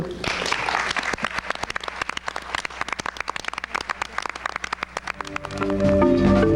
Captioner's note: audience applauding